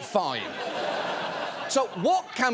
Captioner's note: audience laughing